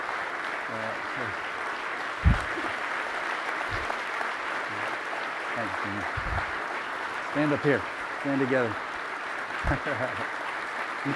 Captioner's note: applause